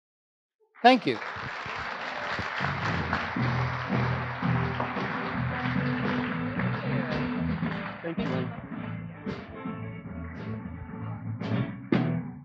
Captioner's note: applause